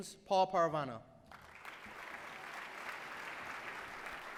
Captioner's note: applause